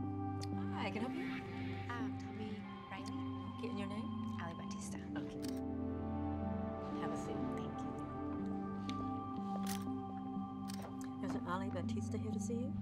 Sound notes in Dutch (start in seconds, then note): 5.3 camera sluiter